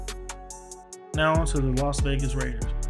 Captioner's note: voiceover